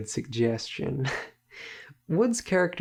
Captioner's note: laugh